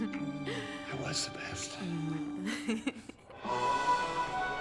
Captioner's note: whispering; dramatic music playing on tv